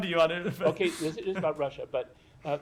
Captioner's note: laughter